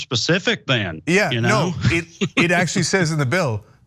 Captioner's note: laugh